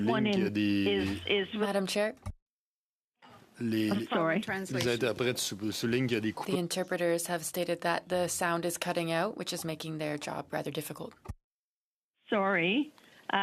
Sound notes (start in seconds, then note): 3.6 speaking French